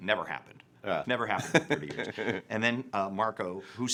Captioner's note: laughing